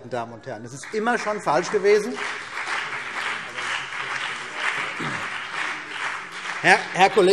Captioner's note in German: Beifall CDU und BÜNDNIS 90/DIE GRÜNEN